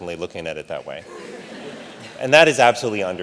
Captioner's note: audience laughs